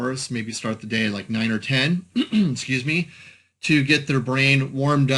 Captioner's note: clears throat